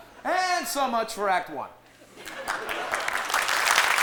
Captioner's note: applause